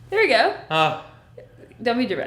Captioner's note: sighing